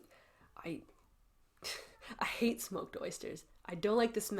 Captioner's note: airy-chuckle